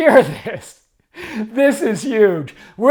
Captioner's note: laughs